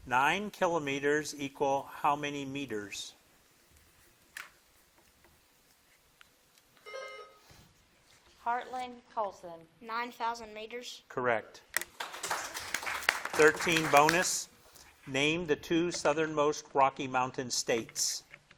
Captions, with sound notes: Nine kilometers equal how many meters? (buzzer dings) - Heartland Colson. - 9,000 meters. - Correct. (crowd claps) 13, bonus. Name the two Southern most Rocky Mountain states.